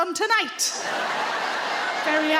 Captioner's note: audience laughing